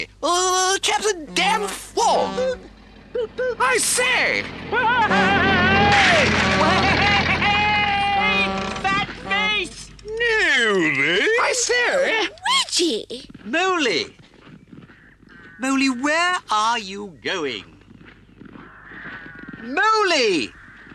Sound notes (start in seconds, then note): 2.4 car horn honks; 4.6 Toad laughs hysterically; 4.6 car horn honks